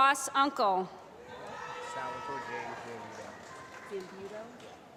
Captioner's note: applause